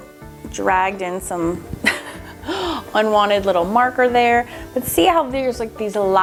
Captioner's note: laughs